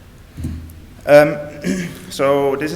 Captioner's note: clears throat